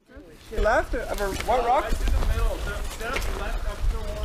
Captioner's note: group chatting